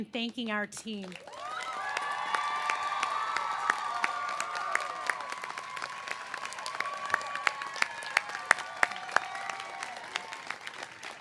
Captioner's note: cheers and applause